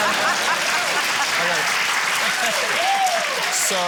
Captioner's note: cheering, applause, laughter